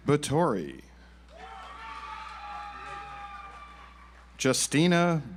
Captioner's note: audience applauds